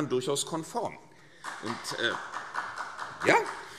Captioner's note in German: Demonstrativer Beifall